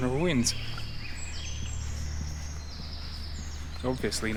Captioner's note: birds chirping